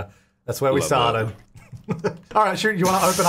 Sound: laughing

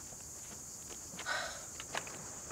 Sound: sighs

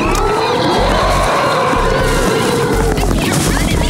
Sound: growls; screams

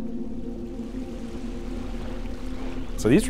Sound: water splashing

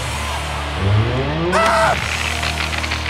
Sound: screams

